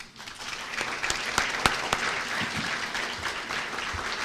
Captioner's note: applause